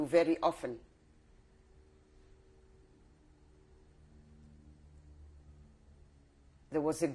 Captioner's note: pauses for 6 seconds